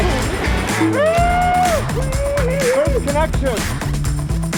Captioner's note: cheers